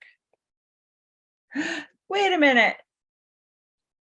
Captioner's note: gasp